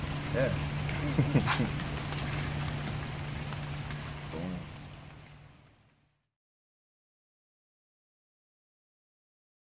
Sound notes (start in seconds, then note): 0.9 laughs freely